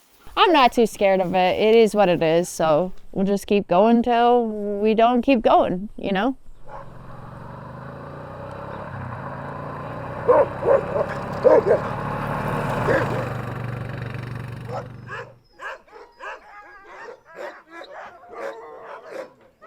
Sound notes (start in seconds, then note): 7.5 engine rumbling; 14.6 dogs barking